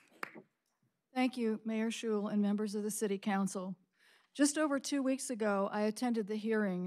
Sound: applause

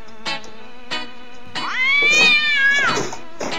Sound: siamese Cat Yowling

